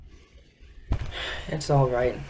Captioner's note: sighs